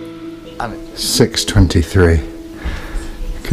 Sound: deep breath

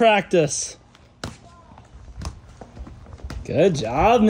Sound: rollerblades tapping

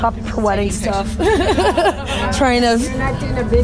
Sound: laughing

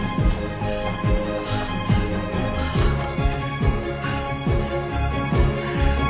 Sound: Catherine breathing heavily

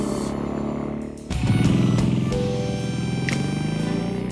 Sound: bike engine revving

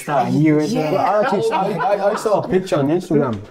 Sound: laughing

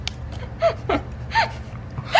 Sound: laughing

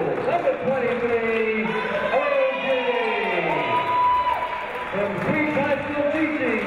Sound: crowd cheering

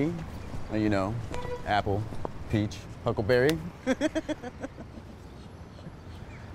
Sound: laughs

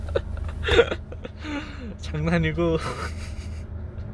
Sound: laughs

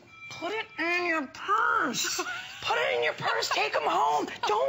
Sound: laughter

